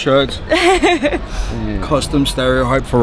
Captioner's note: woman giggling